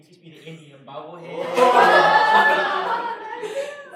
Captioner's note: laughter